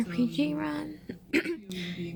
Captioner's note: clears throat